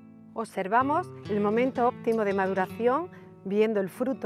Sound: speaks in Spanish

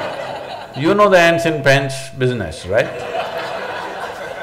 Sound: laughter; laughter

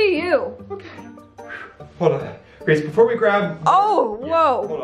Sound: exhales

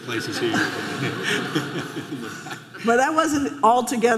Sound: audience laughing

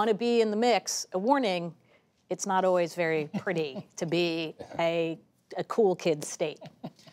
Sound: laughter

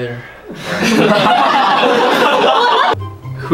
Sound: audience laughs

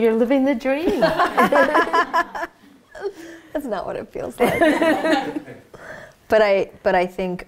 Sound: laughs

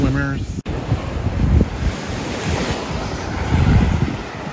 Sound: waves rushing

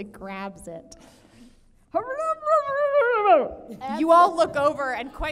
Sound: gurgles

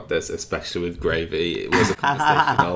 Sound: laughing

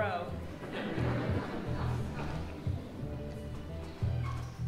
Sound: audience laughing

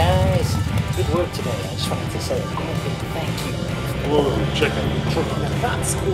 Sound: interrupted by loud truck noise

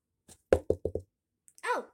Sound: knocking

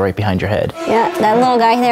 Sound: eerie hum

